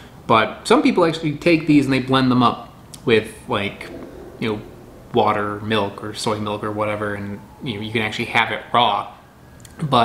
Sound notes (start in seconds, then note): none